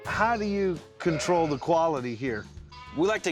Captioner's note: none